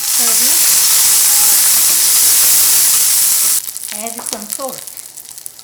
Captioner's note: nuts sizzling